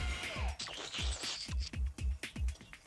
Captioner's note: slurping